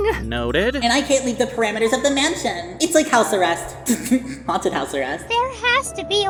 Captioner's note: giggles